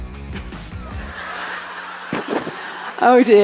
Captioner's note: audience laughing